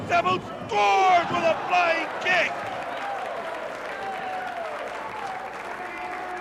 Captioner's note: crowd cheering